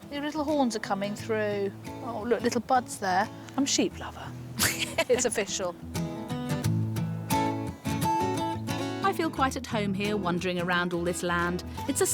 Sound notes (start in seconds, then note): 4.5 laughs